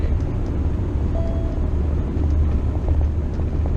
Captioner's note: beep